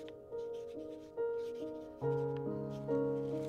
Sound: none

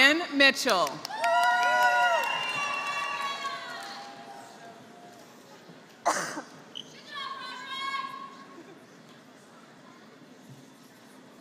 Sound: applause

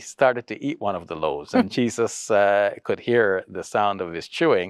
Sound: laughs

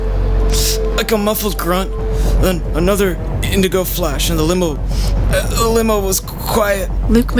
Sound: inhales sharlpy

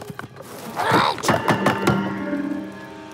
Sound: clanking

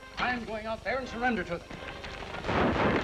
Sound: gunshots

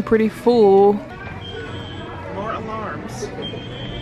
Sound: alarms go off

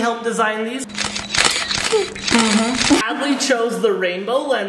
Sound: camera snapping

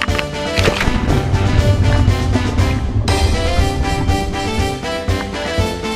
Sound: splashing water; carnival music

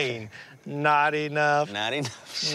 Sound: laughs

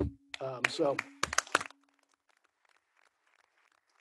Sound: applause

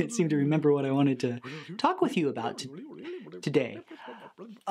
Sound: laughs; critter mumbling in low voice

